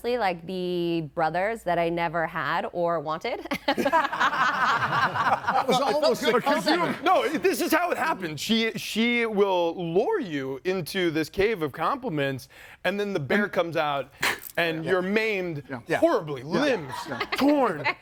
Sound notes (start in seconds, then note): 3.5 group laughs; 5.3 group chattering; 16.6 laughs